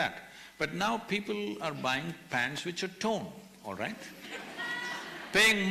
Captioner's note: laughter